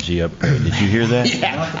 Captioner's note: laughter